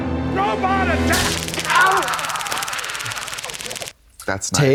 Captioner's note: taser zapping